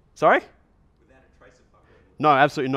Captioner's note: voiceover